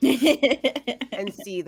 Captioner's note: laughing